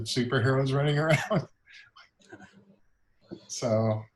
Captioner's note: laughs